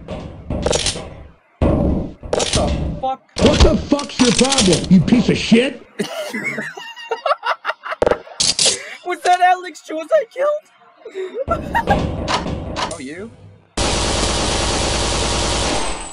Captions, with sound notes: What the fuck is your problem? [Laughing] Was that Alex Jones I killed? [Laughing Continues] Oh you?